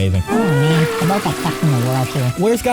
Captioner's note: sad spongebob sound effect